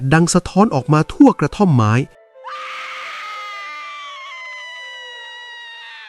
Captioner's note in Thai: เสียงกรีดร้อง